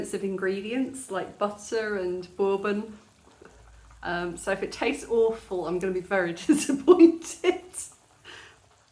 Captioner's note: laughing